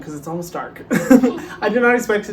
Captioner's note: both laughs